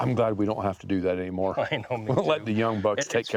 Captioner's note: laughs